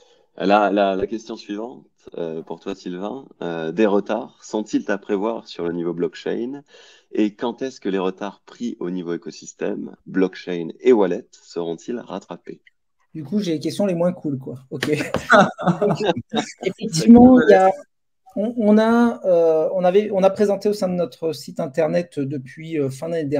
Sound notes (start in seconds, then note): 14.9 laughs